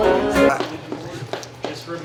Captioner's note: guitar music continues; people continue chattering; feet tapping